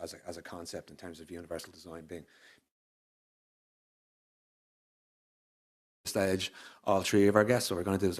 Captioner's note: audio cuts off